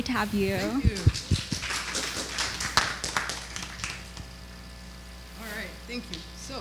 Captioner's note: audience clapping